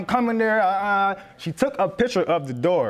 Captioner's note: stutters